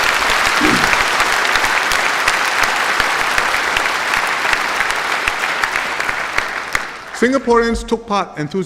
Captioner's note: applause